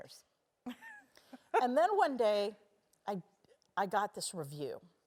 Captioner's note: laugh